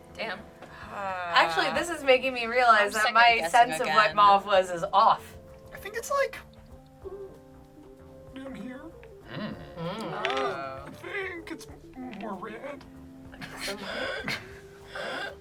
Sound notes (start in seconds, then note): 9.2 group hums